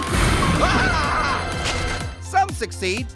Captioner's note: Pear screaming